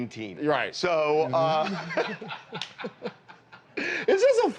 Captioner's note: laughter